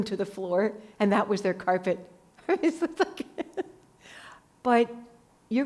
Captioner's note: laughs